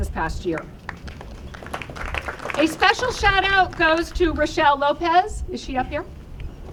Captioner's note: applause